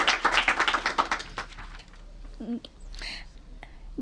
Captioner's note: applause